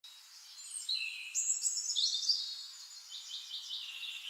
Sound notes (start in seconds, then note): 0.1 birds chirping